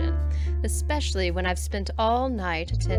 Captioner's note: none